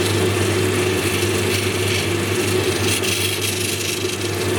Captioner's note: machine whirring